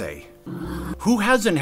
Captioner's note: sigh of sympathy; ominous rumbling